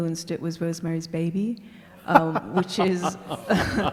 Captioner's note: laughing